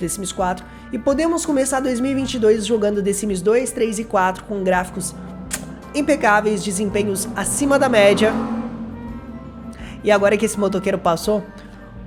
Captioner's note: motorcycle noise